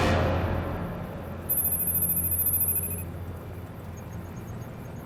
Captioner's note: electronic beeping